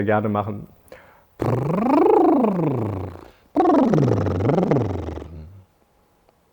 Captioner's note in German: brrrrr